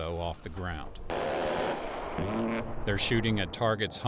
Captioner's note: roaring gunfire